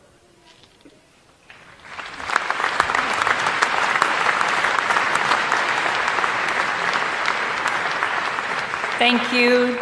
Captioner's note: applause